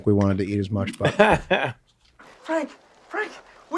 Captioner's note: Danny laughs loudly